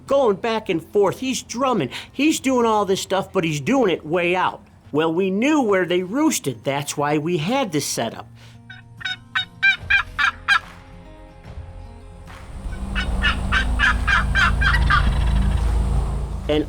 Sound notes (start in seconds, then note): 8.6 turkey call; 12.6 turkey call; 14.6 turkey gobble